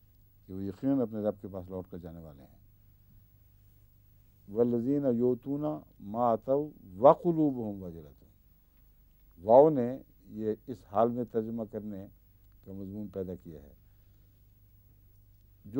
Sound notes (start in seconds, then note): 4.4 Arabic